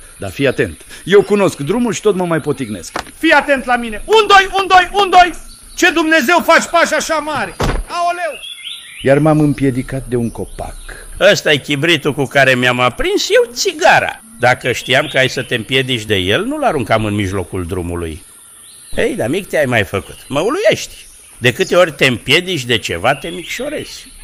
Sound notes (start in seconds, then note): 7.5 A new thud